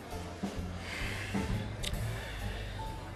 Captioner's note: sighs